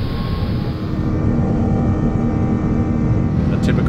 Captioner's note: engine whirring